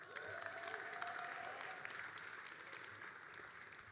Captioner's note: all applauding